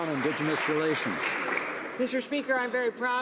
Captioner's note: some Applause